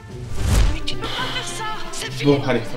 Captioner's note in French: Soupir